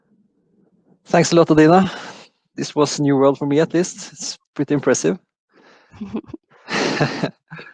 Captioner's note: chuckles